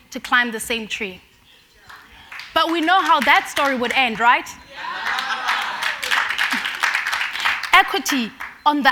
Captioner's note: applause